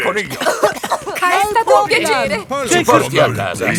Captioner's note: coughing